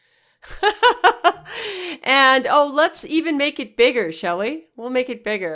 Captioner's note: laughing